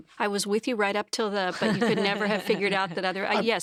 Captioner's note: laughs